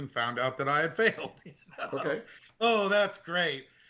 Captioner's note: laughing